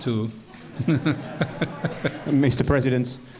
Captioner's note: laughter